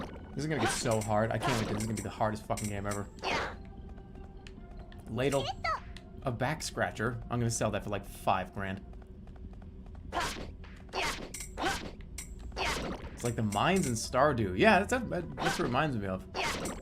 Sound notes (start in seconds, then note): none